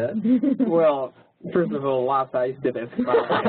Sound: laugh

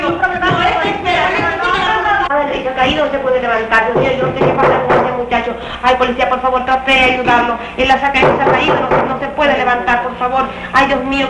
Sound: the women continue speaking rapidly

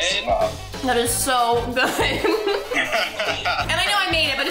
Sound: all laughing

